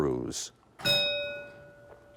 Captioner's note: bell ringing